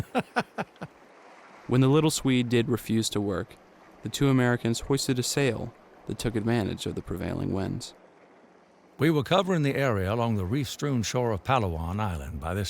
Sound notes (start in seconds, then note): 0.0 Damon laughing